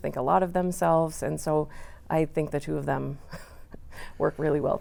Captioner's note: laughs